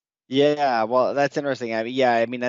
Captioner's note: laughs